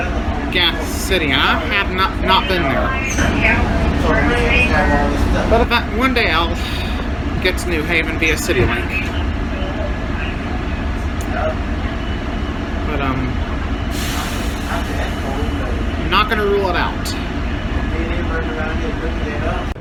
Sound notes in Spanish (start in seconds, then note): 3.2 Charla indistinta; 9.2 Charla indistinta; 17.2 Charla indistinta